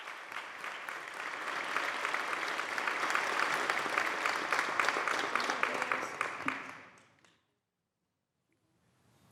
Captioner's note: applause